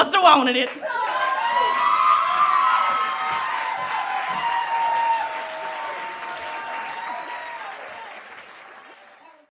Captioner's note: applause